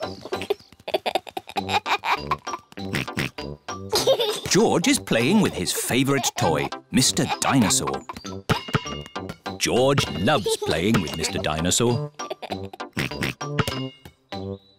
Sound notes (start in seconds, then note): 0.0 giggles; 2.9 oinks; 11.9 laughs and oinks